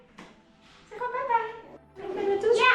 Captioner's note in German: murmelt